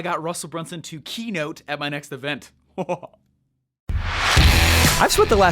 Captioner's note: laughs